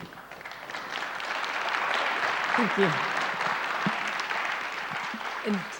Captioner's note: audience applauds